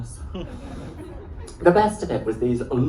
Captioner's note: laughter